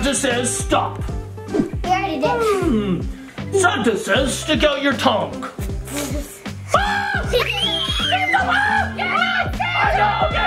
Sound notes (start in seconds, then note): 6.9 screaming